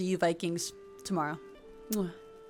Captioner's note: kiss